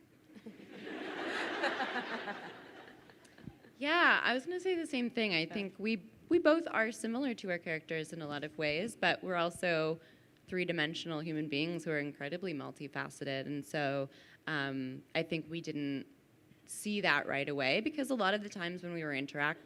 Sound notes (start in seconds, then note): 0.4 crowd laughing